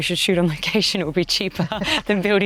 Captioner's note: both chuckling